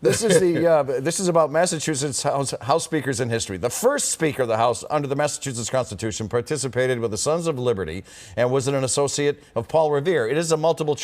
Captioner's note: laughter